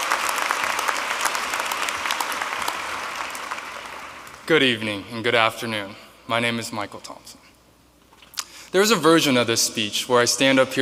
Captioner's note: applause